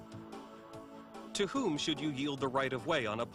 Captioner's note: voiceover